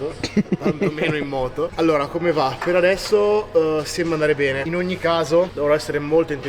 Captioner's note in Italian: risate